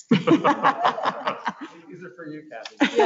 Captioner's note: laughs